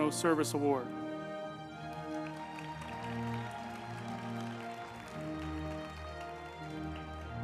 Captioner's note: uplifting music; group applauding